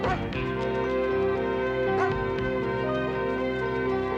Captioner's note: barking